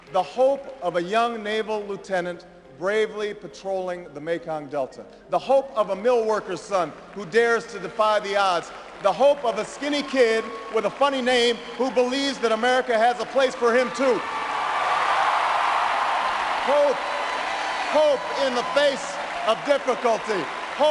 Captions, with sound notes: The hope of a young naval lieutenant bravely patrolling the Mekong Delta. The hope of a mill worker's son who dares to defy the odds. The hope of a skinny kid with a funny name who believes that America has a place for him too. (loud applause) Hope in the face of difficulty.